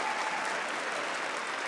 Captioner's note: applause